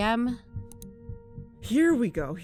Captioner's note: click